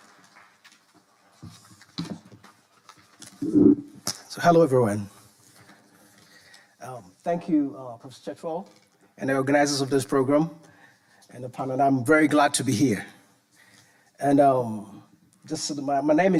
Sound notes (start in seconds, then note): 1.7 papers rustling; 3.4 microphone sliding